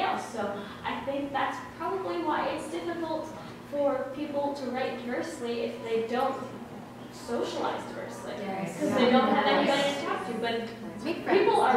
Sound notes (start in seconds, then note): 8.4 murmurs of agreement; 11.3 giggles